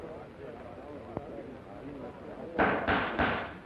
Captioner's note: gavel banging